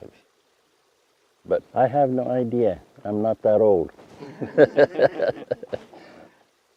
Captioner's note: laughs